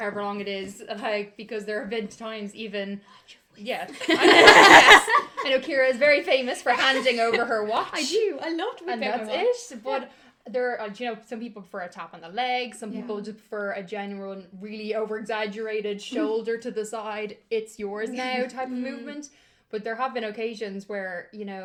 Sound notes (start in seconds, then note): 5.6 whispers intensely; 6.7 laughter